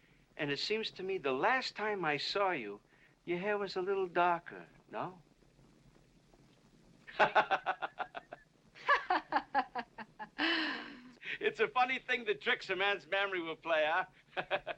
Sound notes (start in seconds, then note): 7.1 laughing to himself; 8.7 Katherine mocking